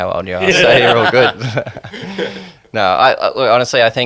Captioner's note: everyone laughing